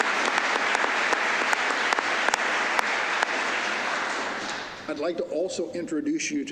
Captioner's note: applause